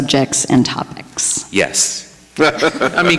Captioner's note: chuckling